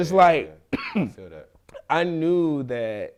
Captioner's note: coughs